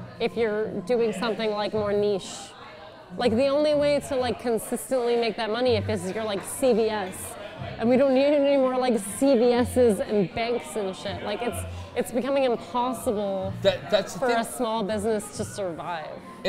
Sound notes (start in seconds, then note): none